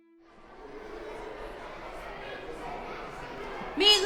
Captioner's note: campers faintly chattering